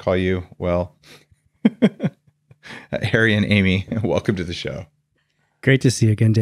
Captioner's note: laughs